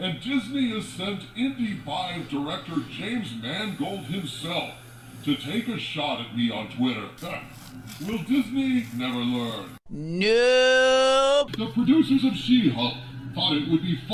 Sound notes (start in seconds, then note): 10.4 scoffs